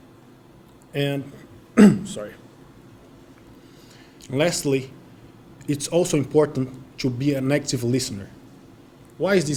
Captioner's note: cough